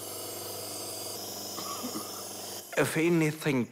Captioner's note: coughs